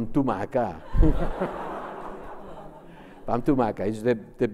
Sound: laughs; speaks Spanish

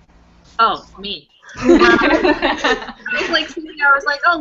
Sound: laughter

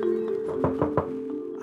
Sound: knock on door

